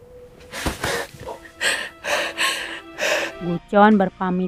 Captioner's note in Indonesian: tertawa; terkesiap